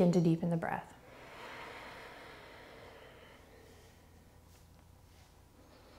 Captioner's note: deep breathing